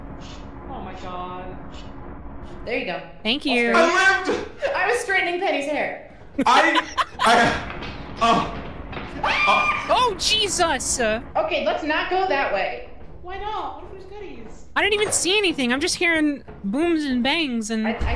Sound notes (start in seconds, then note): 0.1 makes brush sounds; 6.4 laughs; 7.1 mechanical footsteps, screams